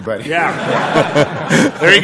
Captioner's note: laughter